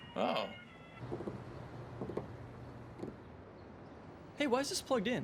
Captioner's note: birds chirping; fingers tapping